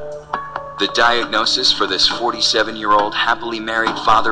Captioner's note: voiceover